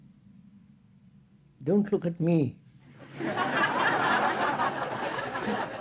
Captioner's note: laughter